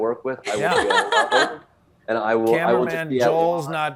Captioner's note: Desi laughs